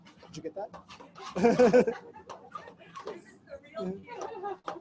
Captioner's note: group laughter